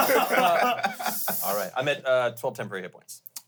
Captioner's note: everyone laughs